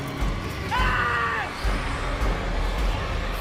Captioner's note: tense frightening music; Patrick screams; tense frightening music